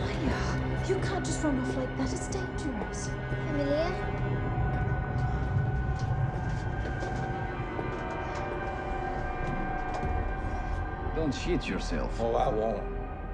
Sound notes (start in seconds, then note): 3.3 Mya speaking in foreign language; 5.0 eerie music